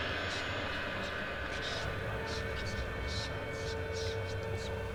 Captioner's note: ghostly voices whispering